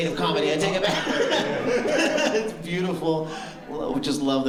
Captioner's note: laughter